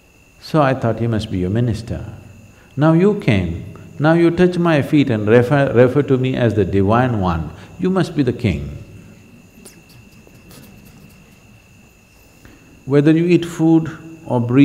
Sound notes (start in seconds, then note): 9.2 laughs